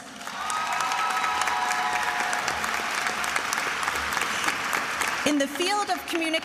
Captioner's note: attendees applauding and cheering